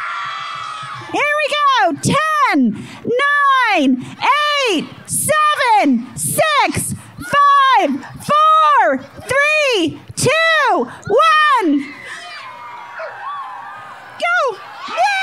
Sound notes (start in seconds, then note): 0.0 crowd cheers; 9.0 applause